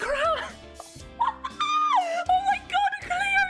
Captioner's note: excited squeaking